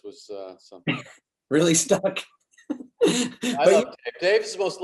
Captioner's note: David laughs